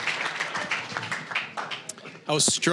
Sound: applause

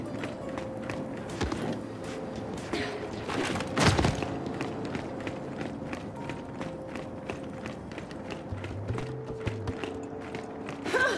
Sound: footsteps

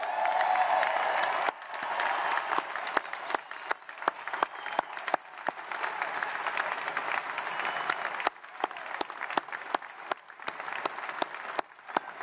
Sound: applause

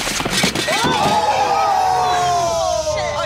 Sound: brakes screeching and grinding; yelling

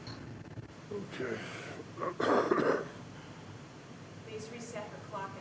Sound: coughs

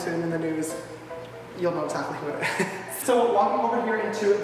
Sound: laughs

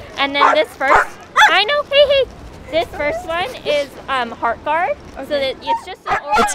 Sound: dog barks

